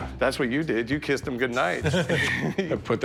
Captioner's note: laughs